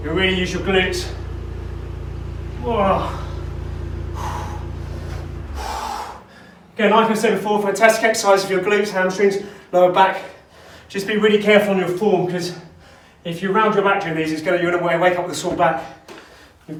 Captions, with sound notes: you're really using your glutes. (grunts) Again, like I said before, fantastic exercise for your glutes, hamstrings, lower back, just be really careful on your form because if you round your back during these, you're going to wake up with a sore back,